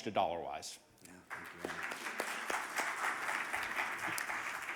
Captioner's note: audience applauding